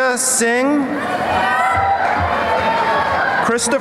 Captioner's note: cheering